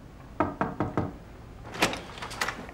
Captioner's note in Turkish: Kapı vuruluyor